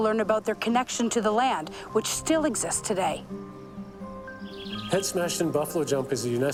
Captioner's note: quacking